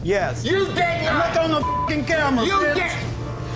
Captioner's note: beep